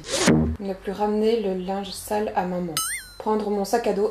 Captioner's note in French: ding